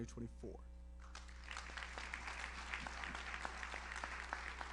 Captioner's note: audience applauds